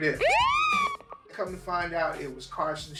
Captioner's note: police siren